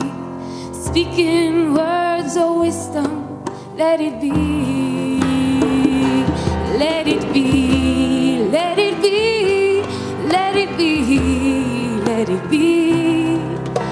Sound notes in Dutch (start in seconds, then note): none